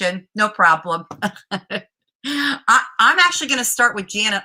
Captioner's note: laughter